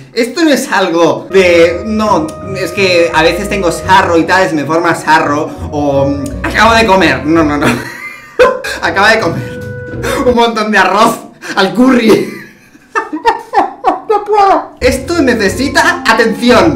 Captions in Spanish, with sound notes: esto no es algo de, "no, es que a veces tengo sarro y tal, y se me forma sarro" o... "acabo de comer" no-no-no *risas* acaba de comer *risa* un montón de arroz al curry *risas* no puedo... esto necesita atención